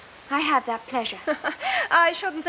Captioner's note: chuckles